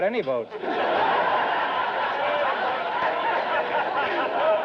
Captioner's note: audience laughter